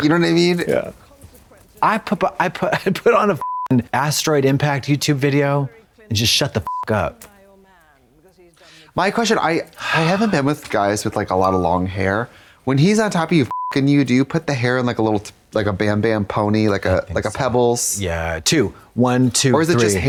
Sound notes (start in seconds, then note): 2.9 beep; 13.5 beep